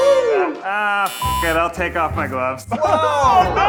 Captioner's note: beep